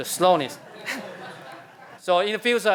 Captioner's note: laughter